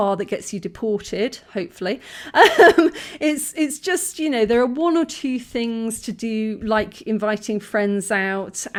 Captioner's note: laughing